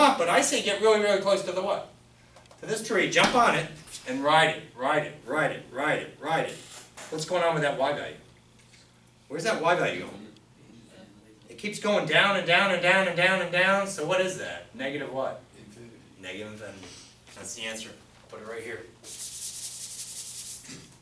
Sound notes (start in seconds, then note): 15.9 voiceover